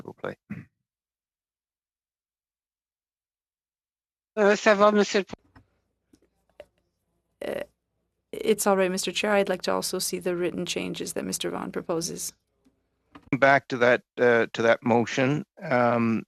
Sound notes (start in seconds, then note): 14.2 speaking French